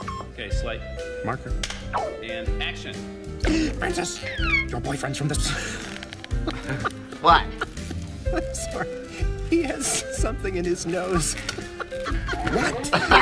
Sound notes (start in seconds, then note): 3.4 gasps; 5.4 laughs; 11.1 everyone laughs